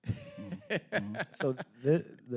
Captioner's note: laughing